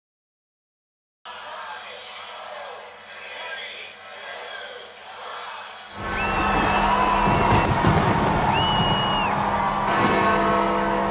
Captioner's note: London clock sounding